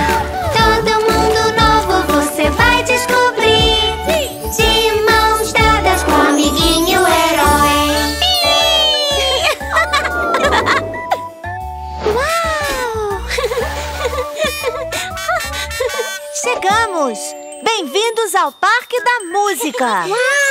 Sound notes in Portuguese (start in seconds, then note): 9.4 Risos; 14.8 Som buzina